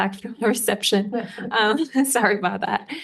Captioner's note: audience laughing